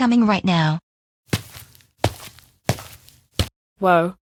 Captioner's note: footsteps